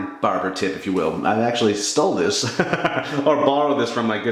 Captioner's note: laughs